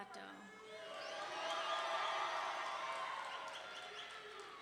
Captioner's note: audience cheering